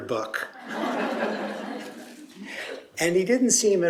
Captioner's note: laughter